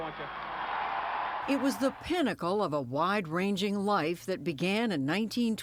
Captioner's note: voice-over